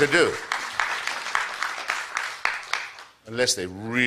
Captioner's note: applause